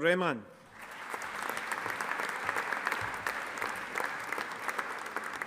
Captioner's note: audience applauding